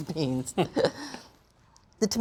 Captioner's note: both chuckle